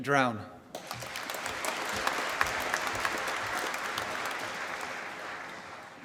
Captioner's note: applause